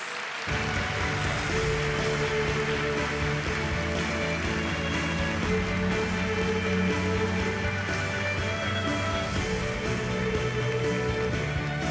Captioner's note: applause